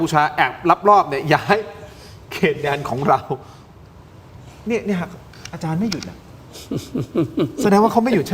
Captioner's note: laughs